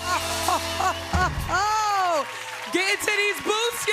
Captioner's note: chuckling